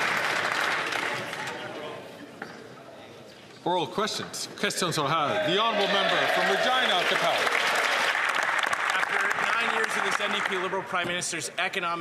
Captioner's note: some Applause